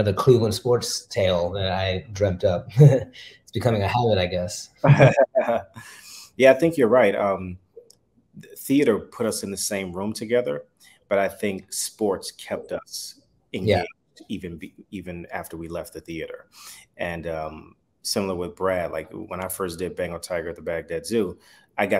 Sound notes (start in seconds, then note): 2.8 chuckles; 4.8 chuckle